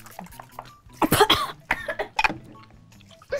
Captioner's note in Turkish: Öksürme sesleri